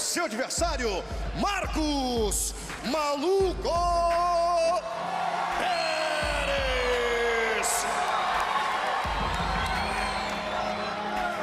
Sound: speaking foreign language

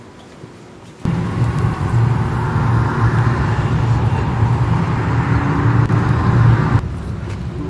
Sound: cars driving

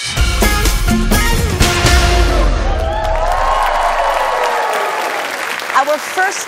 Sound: cheering

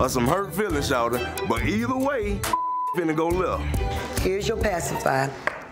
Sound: beep

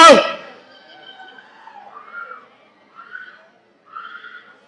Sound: woman screams

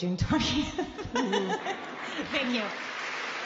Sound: laughs; applause

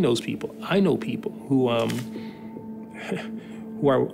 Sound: chuckles

